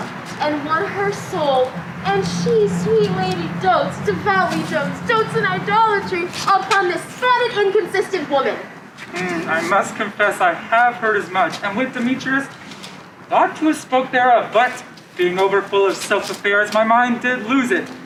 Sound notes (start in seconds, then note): none